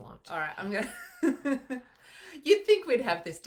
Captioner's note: laughs